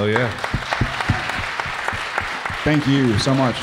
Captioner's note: audience applauding